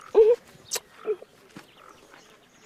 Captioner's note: kissing